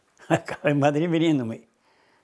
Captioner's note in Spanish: Ríe